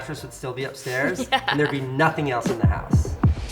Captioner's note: laughs